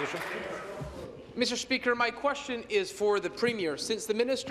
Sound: applause

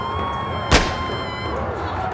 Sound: screaming; gunshot

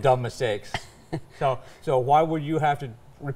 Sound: laughing

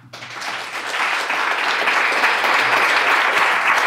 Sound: clapping

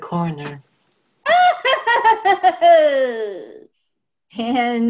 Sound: laughter

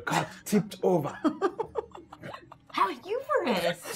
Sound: gamers laughing

